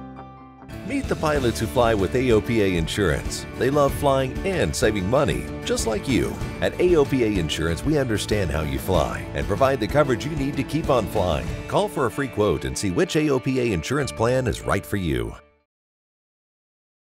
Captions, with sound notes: - [Voiceover] Meet the pilots (rock music) who fly with AOPA Insurance. They love flying and saving money, just like you. At AOPA Insurance, we understand how you fly, and provide the coverage you need to keep on flying. Call for a free quote, and see which AOPA Insurance plan is right for you.